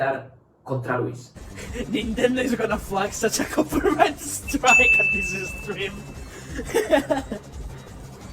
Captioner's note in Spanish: Risas